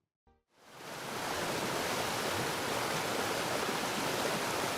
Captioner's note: water rushing